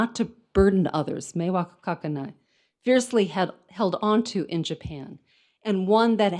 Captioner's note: speaks in foreign language